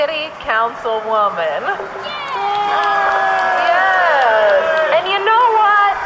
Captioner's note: the crowd cheers harder